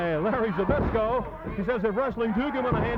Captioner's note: body thudding